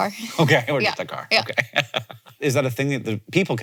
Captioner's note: laughs